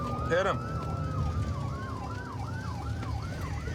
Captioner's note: sirens wailing